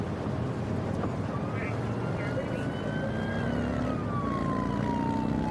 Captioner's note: siren blaring